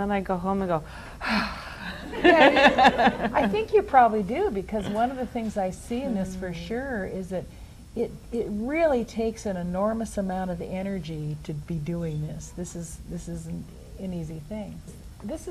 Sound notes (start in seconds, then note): 1.2 big sigh